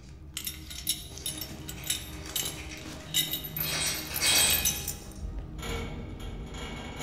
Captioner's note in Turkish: Kilit sesi